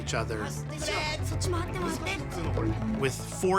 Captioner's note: gamers speaking japanese